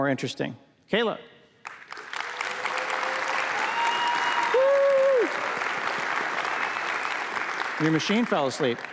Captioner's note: applause